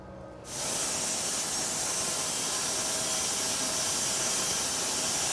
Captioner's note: power saw rattling